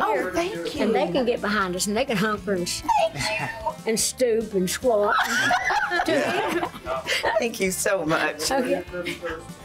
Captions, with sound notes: - Oh, thank you. - And they can get behind us, and they can hunker-- - Thank you! - And stoop and squat. [laughter] - Thank you so much. - Oh, yeah.